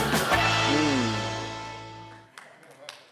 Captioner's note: audience Applauding